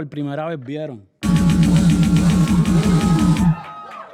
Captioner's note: electronic sound